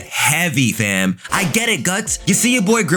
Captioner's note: fire whooshing